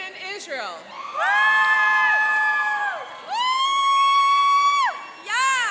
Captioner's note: cheering and applauding